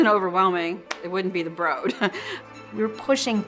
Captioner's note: chuckles